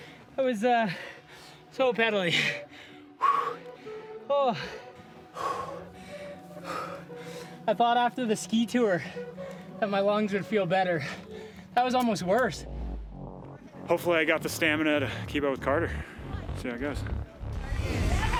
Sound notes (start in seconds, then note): 4.4 breathing heavy; 18.2 crowd cheering